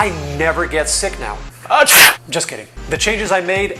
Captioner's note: sneeze